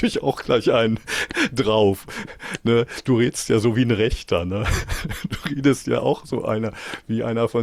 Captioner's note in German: gelächter